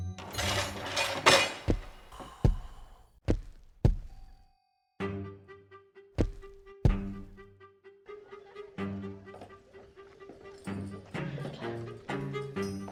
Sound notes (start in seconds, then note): 0.2 door clanks; 6.6 suspenseful music; 9.1 people chattering